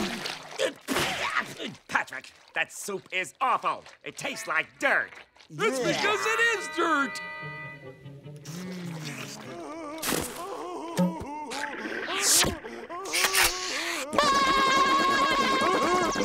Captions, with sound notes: Patrick, that soup is awful! It tastes like dirt! That's because it is dirt! Mmh... [Patrick laughing] [reloading sound] [screaming]